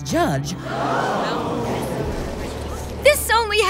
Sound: crowd awws

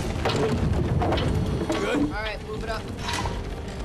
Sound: ceiling creaking

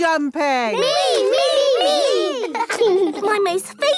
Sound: laughing

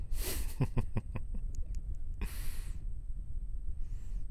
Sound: laughing

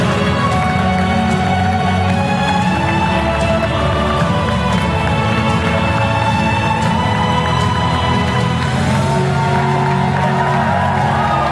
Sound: applause

